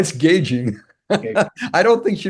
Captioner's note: laugh